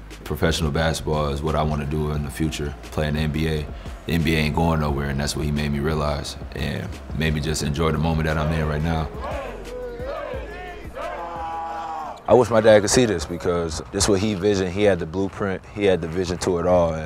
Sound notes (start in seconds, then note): 8.2 team chants